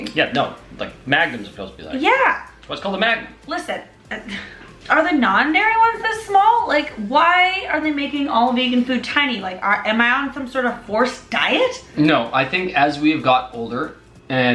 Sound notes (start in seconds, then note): 4.3 laughs